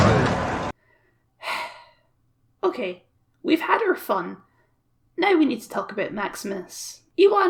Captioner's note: sigh